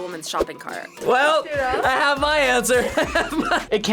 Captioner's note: laughs